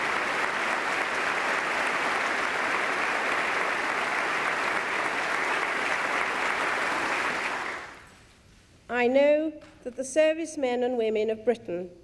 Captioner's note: applause